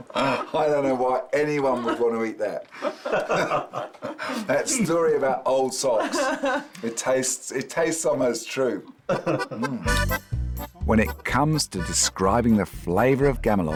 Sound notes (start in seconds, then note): 1.6 laughs